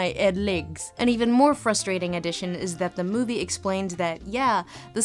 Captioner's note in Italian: voce fuori campo